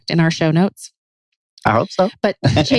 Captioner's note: laughs